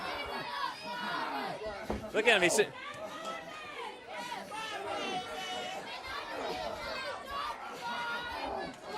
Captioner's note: crowd chatter